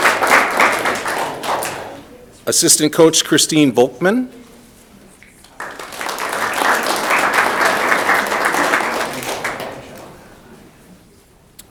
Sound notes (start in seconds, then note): 5.4 audience clapping